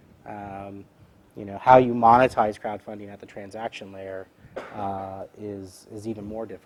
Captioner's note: cough